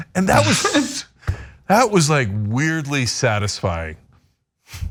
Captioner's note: laugh